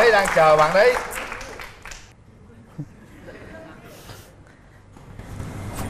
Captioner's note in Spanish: Aplaudir